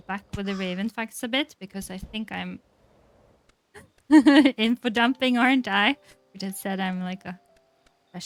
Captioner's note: laughs